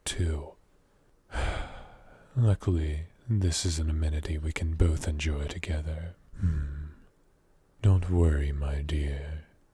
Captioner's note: sigh